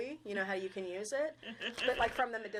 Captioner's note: laughing